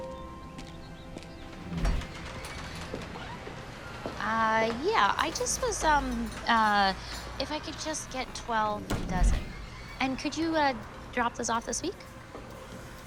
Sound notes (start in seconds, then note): 1.4 door squeaking